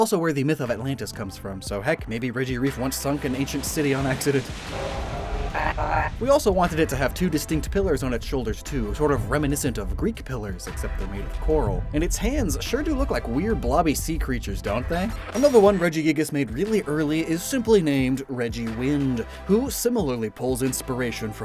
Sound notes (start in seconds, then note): 4.6 Splash SFX, Regireef cry